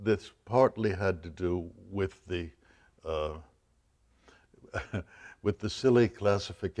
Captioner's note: laughs